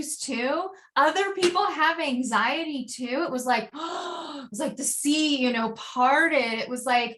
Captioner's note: gasp